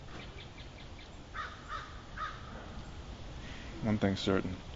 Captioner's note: bird calling